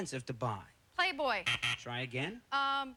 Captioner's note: buzzer